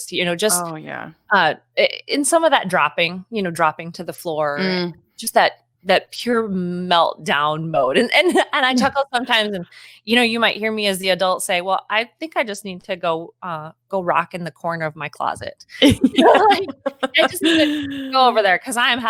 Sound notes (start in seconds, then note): 15.8 laughing; 15.9 speaking faintly